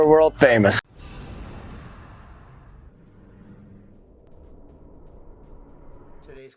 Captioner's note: whoosh